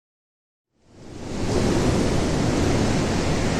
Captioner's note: sound of wind